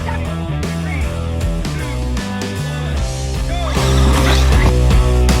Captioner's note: laughing